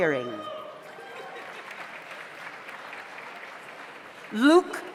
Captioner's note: audience applauds